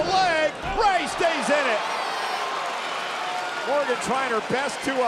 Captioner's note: spectators cheering